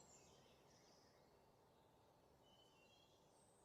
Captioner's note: none